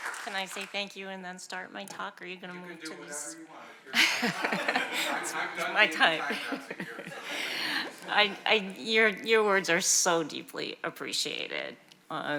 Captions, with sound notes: - Can I say thank you and then start my talk? Or are you gonna move to this? - You can do whatever you want. (attendees laugh) - My time. - I'm done giving my time, take yours. - Your words are so deeply appreciated.